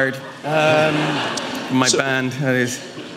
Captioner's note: audience laughing